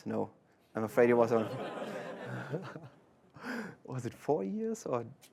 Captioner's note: laughter